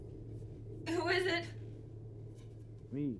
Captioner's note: voice breaking